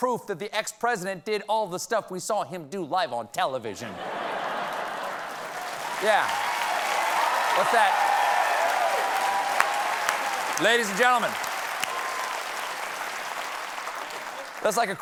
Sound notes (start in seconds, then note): 3.8 laughter; 4.1 applause